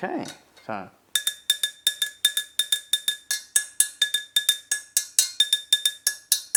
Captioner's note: sounds of a chopstick striking the edge and base of metal pot